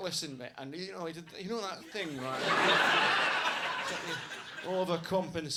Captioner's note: audience laughs